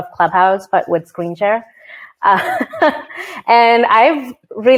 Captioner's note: laughs